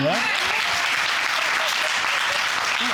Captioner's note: audience applauding